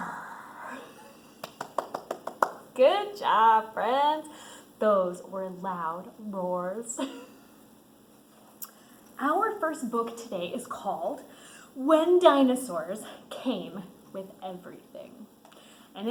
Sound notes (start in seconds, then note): 0.8 laughs; 8.1 laughs